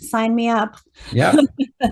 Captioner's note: laughs